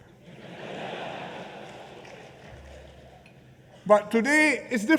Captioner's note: laughter